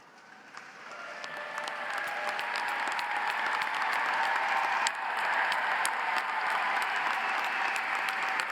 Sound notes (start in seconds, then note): 0.3 audience applauds; 2.3 audience cheers